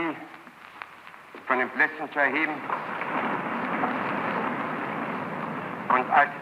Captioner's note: applause